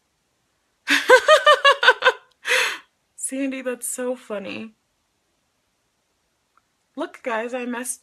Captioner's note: laughs